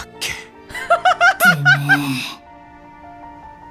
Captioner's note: laughs